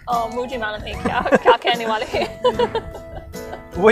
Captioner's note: both laughs